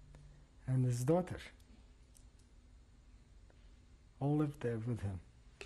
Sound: pauses for 3 seconds

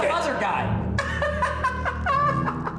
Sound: laughs

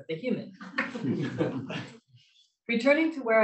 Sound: laughs

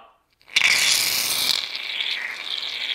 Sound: loud sputtering; liquid gurgling

